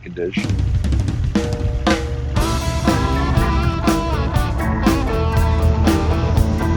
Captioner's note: engine growls; upbeat music